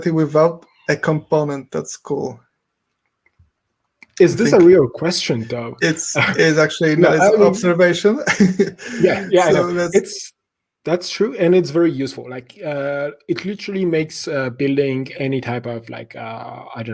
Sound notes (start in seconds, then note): 8.5 laughs